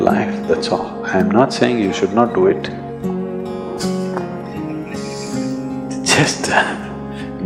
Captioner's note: few laugh